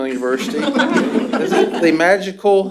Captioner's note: laughter